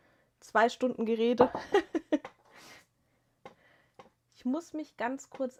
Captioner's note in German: gelächter